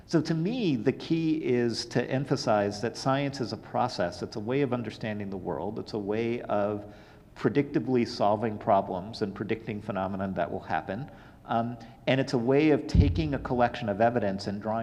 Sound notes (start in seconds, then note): none